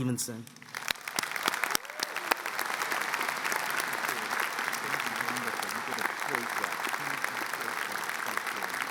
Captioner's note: applause